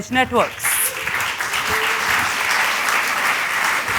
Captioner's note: applause